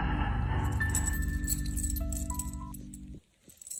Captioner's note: metal sound